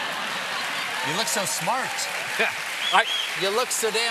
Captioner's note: cheers and applause